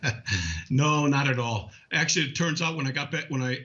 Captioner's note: laughing